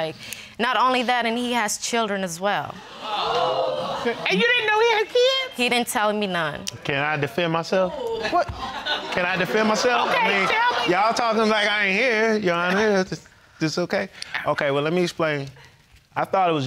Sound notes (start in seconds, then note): 2.9 audience gasping